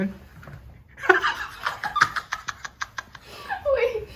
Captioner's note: laughs